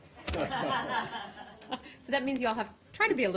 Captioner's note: laughter